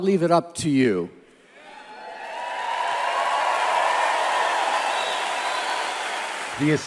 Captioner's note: crowd cheers and applauds